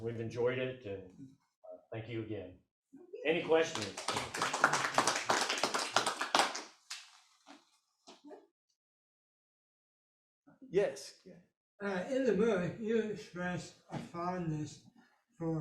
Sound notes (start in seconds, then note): 5.1 audience applauding